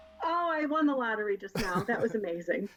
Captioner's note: laughs